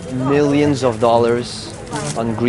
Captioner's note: none